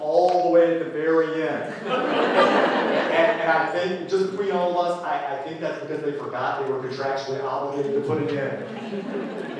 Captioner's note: laughter